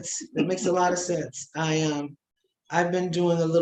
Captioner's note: chuckling